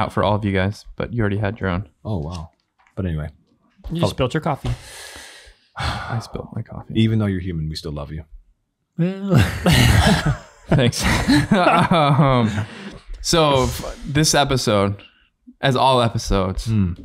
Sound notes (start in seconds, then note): 9.4 laughing awkwardly